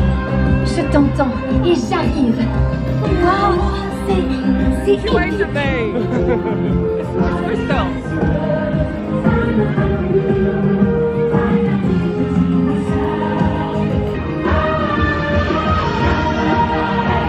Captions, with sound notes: (Elsa speaking in French) She waved at me! That's Kristoff! (upbeat joyful music)